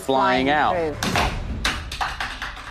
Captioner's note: whacking